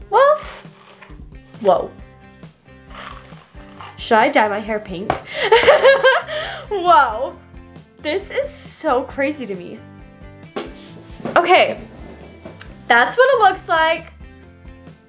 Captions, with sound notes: Well, whoa! Should I dye my hair pink? (laughing) Whoa! This is so crazy to me. Okay. That's what it looks like.